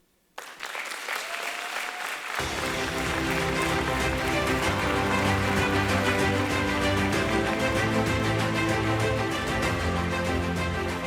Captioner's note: applause, Music